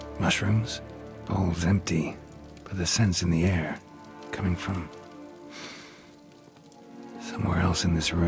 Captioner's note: sniff